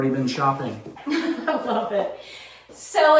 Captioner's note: laughs